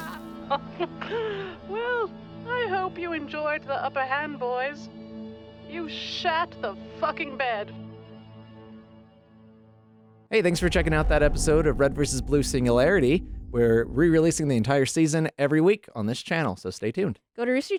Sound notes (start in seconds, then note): 0.6 laughter